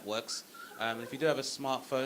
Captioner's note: audience member whistling